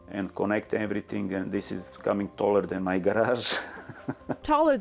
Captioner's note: laughs